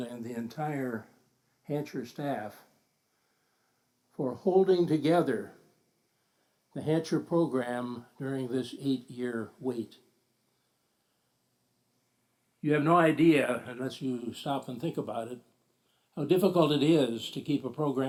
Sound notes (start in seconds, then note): none